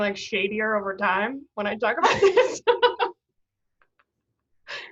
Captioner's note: laughs